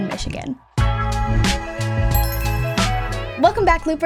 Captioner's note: relaxing music; logo chiming